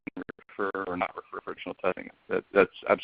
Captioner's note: audio becomes choppy